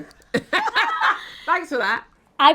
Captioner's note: all laughing